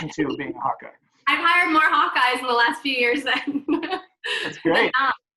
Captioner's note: laughs